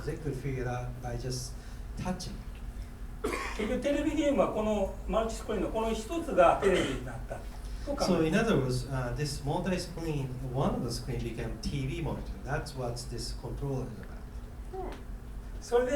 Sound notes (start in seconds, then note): 3.3 speaking in foreign language